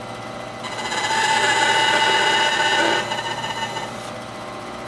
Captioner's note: tool squealing